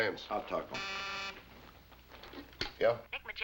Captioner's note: buzzing